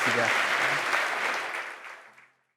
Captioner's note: applause